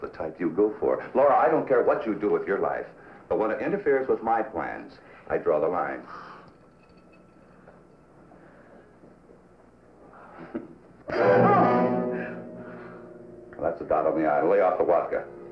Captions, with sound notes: Just the type you go for. Laura, I don't care what you do with your life. But when it interferes with my plans, I draw the line. [gasp] [chuckles] [smack] [shout] That's a dot on the I. Lay off the vodka.